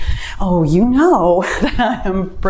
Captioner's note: laughs